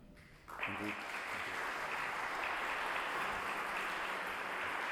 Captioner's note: audience applauding